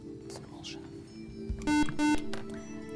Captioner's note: buzzer